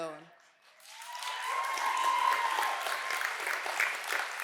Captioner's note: cheers and applause